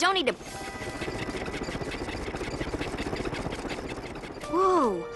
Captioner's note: propeller clicking